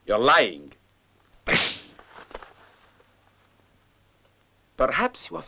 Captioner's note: slap lands